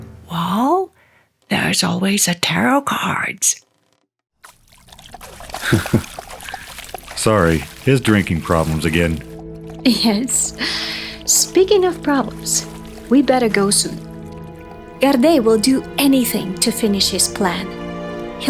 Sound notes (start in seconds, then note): 5.1 water splashes; 5.6 Varlahm chuckles; 10.1 chuckles